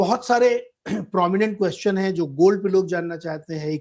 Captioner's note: sound of clearing throat